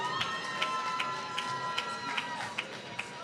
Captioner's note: applause